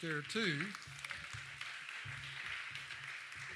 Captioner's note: applause